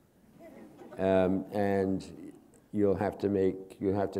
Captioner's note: chuckle